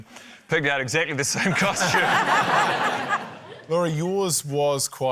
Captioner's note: laughter